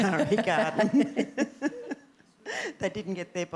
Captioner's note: laughter